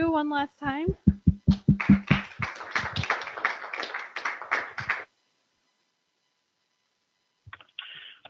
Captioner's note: applause